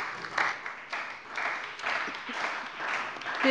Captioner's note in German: Beifall bei der CDU und dem BÜNDNIS 90/DIE GRÜNEN